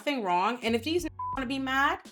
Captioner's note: beep